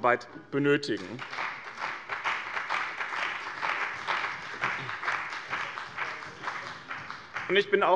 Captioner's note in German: Beifall bei dem BÜNDNIS 90/DIE GRÜNEN sowie bei Abgeordneten der CDU und der FDP